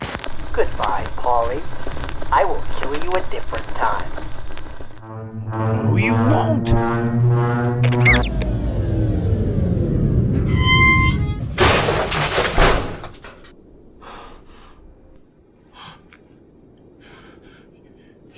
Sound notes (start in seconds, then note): 0.1 scratchy robot voice; 7.0 powering down; 11.5 crash; 13.5 gasping